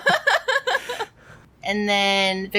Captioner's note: laughs